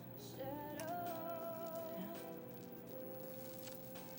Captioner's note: beads rattling